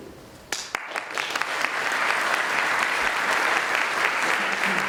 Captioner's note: applause